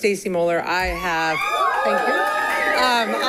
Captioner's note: people cheers